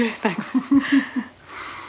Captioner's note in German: lacht